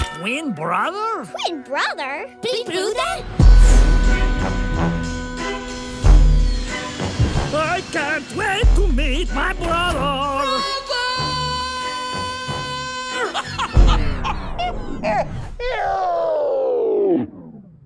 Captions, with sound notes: - Twin brother?! Twin brother?! "Twin brother?!" (in Minion talks). - I can't wait to meet my brother! - Brother!! Hahahah....